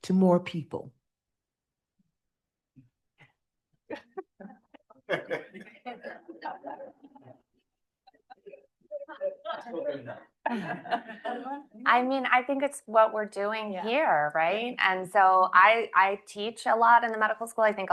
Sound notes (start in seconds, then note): 3.9 panelists laughing; 4.0 panelists chattering